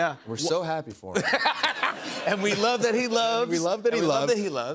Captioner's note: laughter